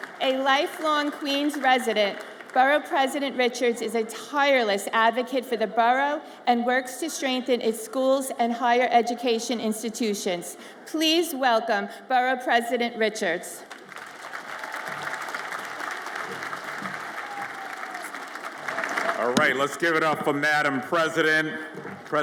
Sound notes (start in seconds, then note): 13.6 audience applauds